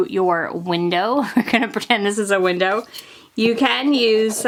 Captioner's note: laughs